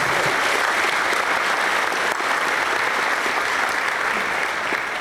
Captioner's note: applause